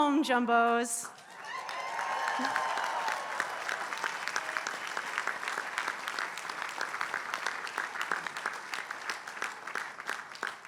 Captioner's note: applause